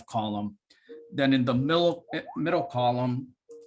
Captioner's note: mobile phone ringing